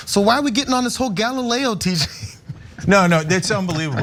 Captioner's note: laugh